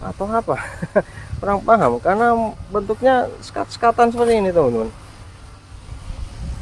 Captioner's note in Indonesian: tertawa